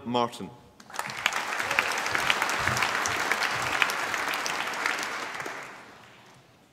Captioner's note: applause